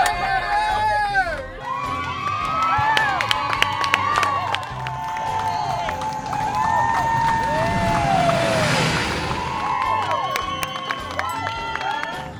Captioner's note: cheering